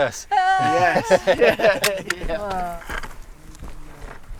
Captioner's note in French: rires du groupe